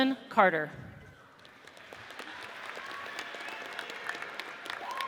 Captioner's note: audience cheers